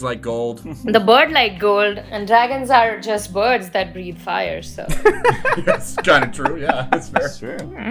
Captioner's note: laughter; laughs